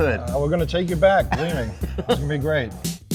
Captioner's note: laughs